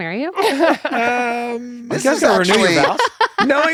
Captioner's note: laughter